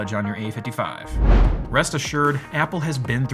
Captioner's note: air whooshing